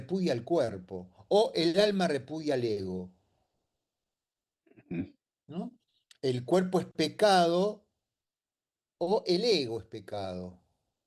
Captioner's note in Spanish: carraspeo